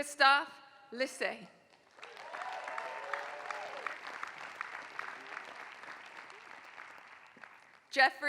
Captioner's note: applause